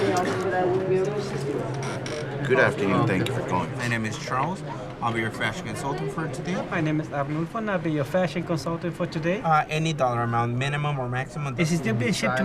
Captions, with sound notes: [coughing] - Good afternoon. - Thank you for calling. - My name is Charles. I'll be your crash consultant for today. - My name is Abu for now. I'll be your fashion consultant for today. - Any dollar amount, minimum or maximum.